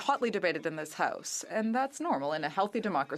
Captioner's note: speaking French